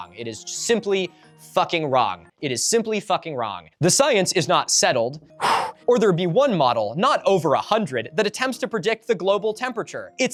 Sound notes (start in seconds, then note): 5.4 sighs